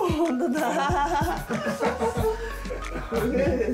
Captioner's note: laughter